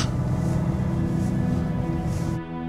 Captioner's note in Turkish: Araba sesi